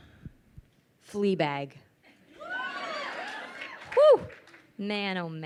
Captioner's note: crowd cheers